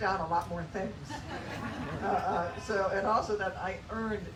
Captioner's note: laughter